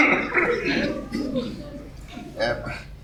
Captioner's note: chokes